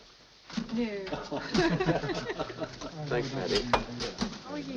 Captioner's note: people laughing